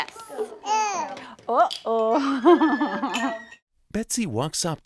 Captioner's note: laughs